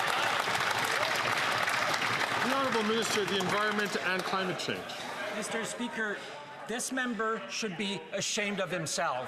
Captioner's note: some Applause